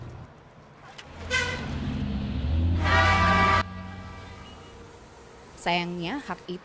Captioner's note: horn Sound